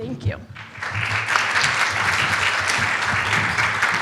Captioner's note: applause